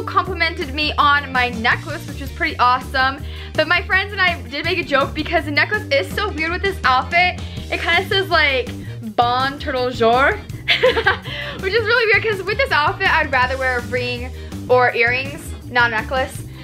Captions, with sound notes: complimented me on my necklace which was pretty awesome. So my friends and I did make a joke because the necklace is so weird with this outfit it kind of says like, bon turtle jour. (laughs) Which is really weird 'cause with this outfit I'd rather wear a ring or earrings, not a necklace